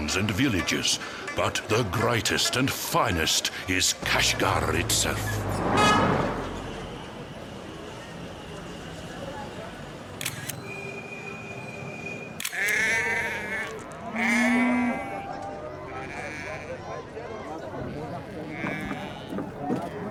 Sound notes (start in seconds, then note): 10.2 camera clicking; 14.1 sheep baaing